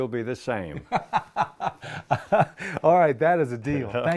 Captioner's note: laughter